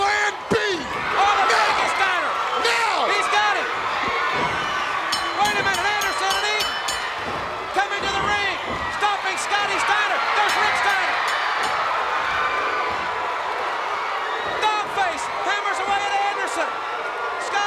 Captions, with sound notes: No! Steiner! No! He's got him! (bell dinging) Wait a minute, Anderson and Eaton coming to the ring! Stomping Scotty Steiner! There's Rick Steiner! (bell dinging) (crowd cheering) Dog Face hammers away at Anderson!